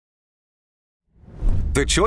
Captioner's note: logo whooshes